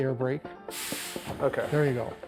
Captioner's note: air brake hisses